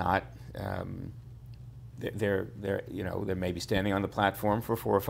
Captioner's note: stammers